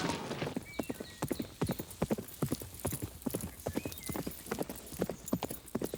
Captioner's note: hooves clop; birds chirp